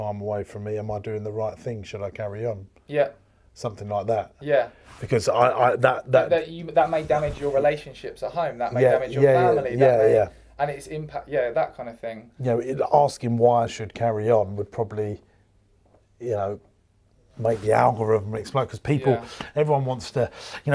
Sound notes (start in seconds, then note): 5.4 both stammering